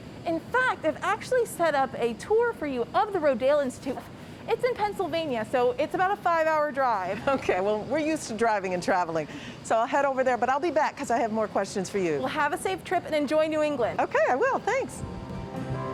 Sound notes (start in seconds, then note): 7.5 chuckles; 15.0 gentle music